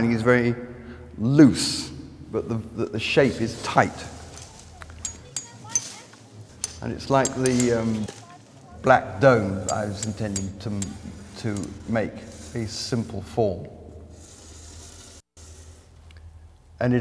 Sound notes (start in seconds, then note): 4.2 hammer tapping